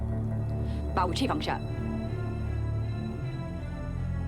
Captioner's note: speaks Chinese language